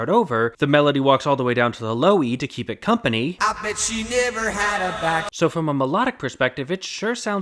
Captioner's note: bang